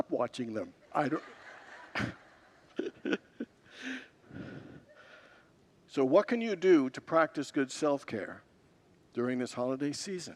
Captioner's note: congregants laugh